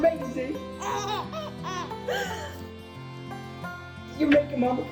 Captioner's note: mom gasping